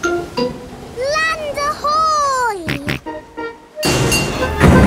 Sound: snorts

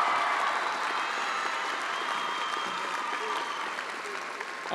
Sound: attendees cheering and applauding

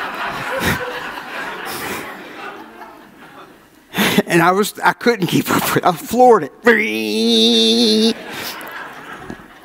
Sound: audience laughs

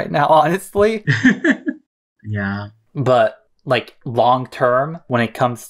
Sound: laughs

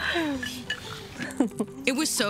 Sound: laughs

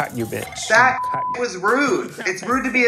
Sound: beep

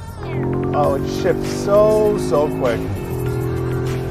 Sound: car engine revving; upbeat music

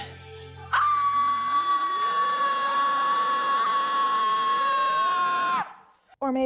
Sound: very loud scream

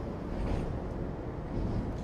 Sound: traffic

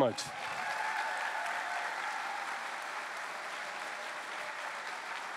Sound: cheering

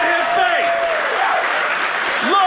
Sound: audience applauding

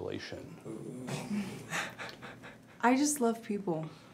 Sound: people chuckling

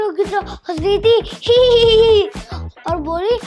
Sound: laughing

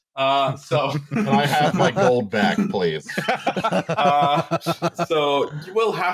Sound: laughter

